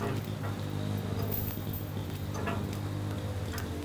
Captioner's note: engine whirring; chains rattling